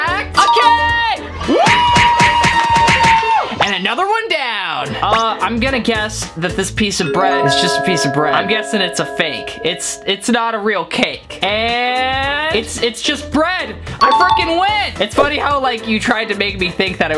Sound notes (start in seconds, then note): 1.3 crowd cheering